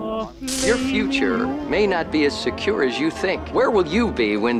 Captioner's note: television